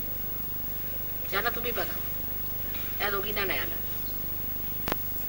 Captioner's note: mother speaks in marathi